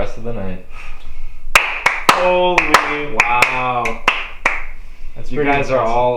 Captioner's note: applause